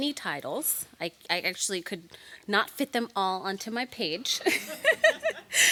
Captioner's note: laughs